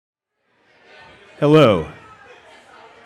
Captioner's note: crowd murmuring